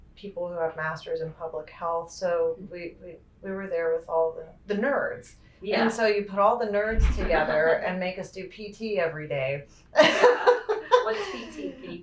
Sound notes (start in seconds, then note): 9.9 laughter